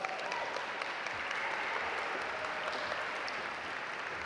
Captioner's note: audience applaud